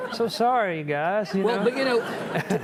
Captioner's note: audience chuckling